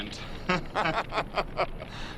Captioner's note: laughing